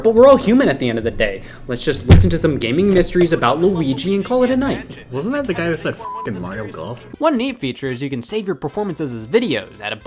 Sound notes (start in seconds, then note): 6.0 beep